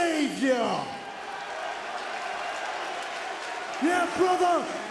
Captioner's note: crowd exclaiming